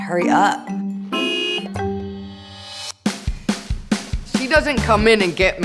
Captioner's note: honking